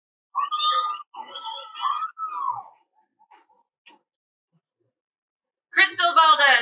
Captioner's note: cheering